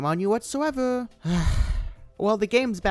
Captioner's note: huff